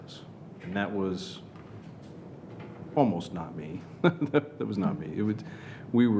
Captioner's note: chuckles